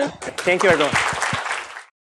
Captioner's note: applause